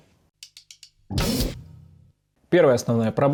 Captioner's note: inaudible static